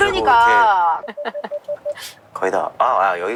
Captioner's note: beeping